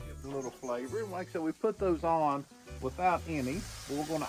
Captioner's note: griddle sizzling